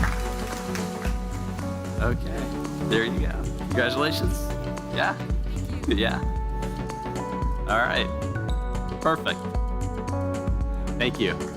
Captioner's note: applause